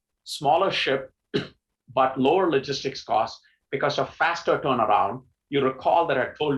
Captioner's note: cough